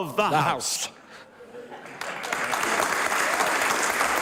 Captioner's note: applause